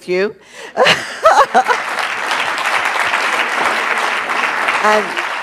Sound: audience applauds

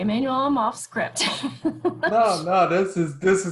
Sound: laughs

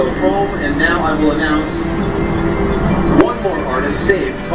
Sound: on TV

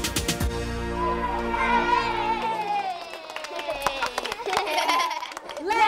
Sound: cheering, clapping

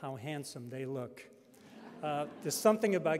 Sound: audience laughing

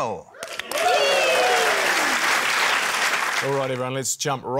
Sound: cheering, applause

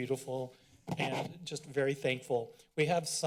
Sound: mic noise

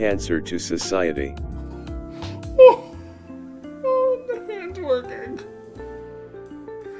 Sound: shocked noises

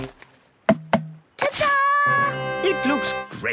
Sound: tapping

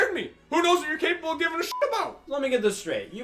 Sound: beep

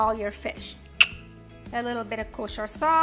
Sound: clicks tongue

